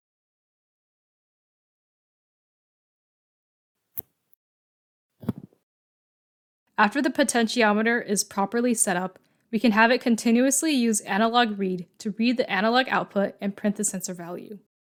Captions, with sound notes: [click] [thud] After the potentiometer is properly set-up, we can have it continuously use analogRead to read the analog output and print the sensor value.